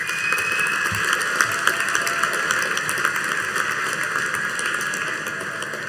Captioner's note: audience cheering and applauding